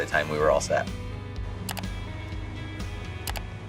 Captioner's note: mouse clicking